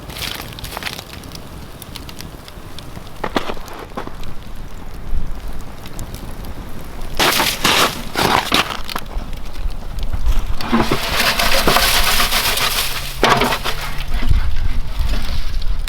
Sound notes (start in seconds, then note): 0.1 fire crackling; 8.2 snow crunching; 11.5 metal rattling